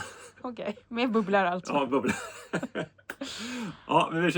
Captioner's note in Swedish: skratt